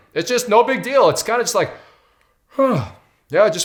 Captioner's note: yawns